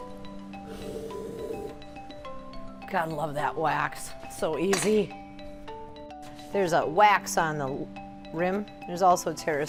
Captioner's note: blows